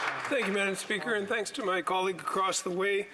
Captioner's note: some Applause